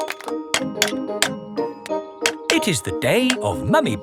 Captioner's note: clanking